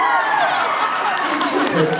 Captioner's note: cheers